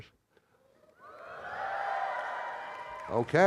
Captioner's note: audience cheering